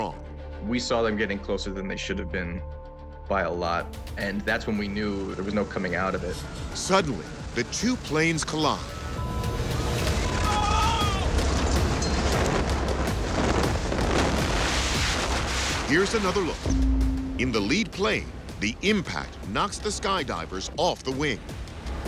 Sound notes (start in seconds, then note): 8.9 people shouting; 9.3 intense music; 10.9 air whooshing